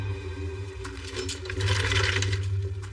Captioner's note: gatate rattlingng; suspensefulul music